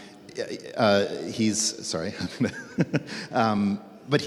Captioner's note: laughs